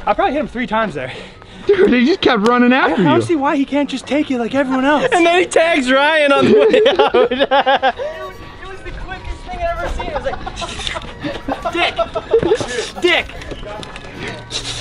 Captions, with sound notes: - I probably hit him three times there - He just kept running after you - I don't see why he can't just take it like everyone else - And then he tags Ryan on the way out (laughing) - Dude it was the quickest think I had ever seen it was like shwuuu dick, shwuu, dick, shwuu, dick